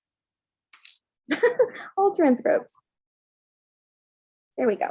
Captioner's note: laughs